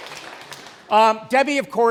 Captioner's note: applause, Cheers